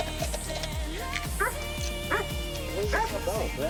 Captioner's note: dog barks